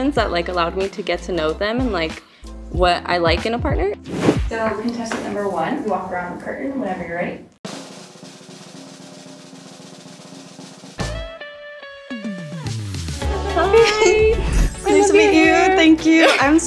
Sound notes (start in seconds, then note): 4.0 transition whooshing; 7.6 drum roll; 12.0 upbeat music